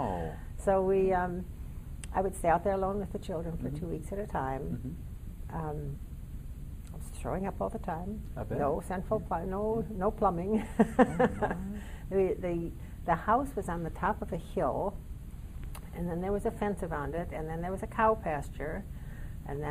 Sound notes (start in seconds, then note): 10.9 laughing